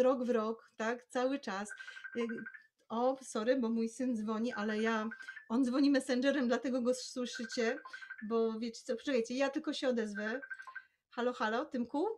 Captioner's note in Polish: dźwięk telefonu i rozmowa z - synem